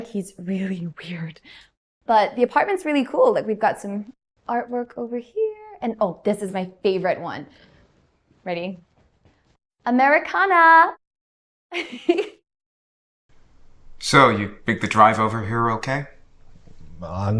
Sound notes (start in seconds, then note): 11.8 chuckles